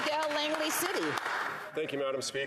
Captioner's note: some Applause